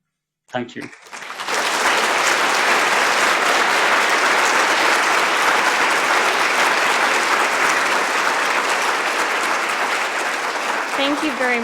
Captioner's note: applause